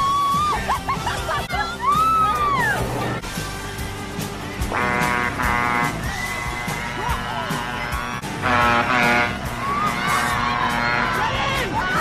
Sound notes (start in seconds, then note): 0.4 laughing; 4.7 horn blows; 9.1 horn blows